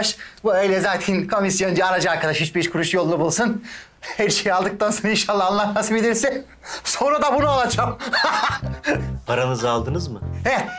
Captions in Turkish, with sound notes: Bu öyle zaten komisyoncu alıcı arkadaş, üç, beş kuruş yolunu bulsun. Her şeyi aldıktan sonra inşallah Allah nasip ederse... ...sonunda bunu alacağım. (Gülme sesi) -Paranızı aldınız mı? -Hah.